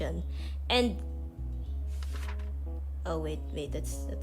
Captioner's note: sound of page turning